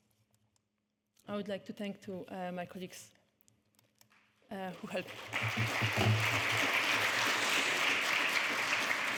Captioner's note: clapping